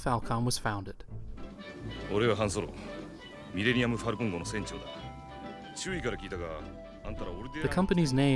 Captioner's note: introducing himself in Japanese